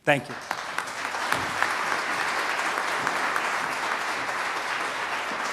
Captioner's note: applause